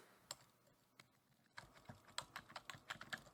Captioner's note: keyboard tapping